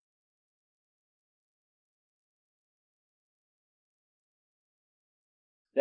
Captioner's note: silence